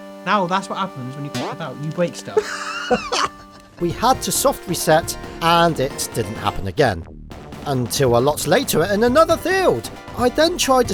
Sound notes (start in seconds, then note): 2.3 chuckles